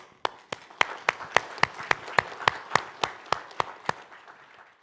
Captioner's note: crowd applauding